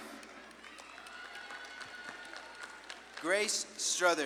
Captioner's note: audience claps and cheers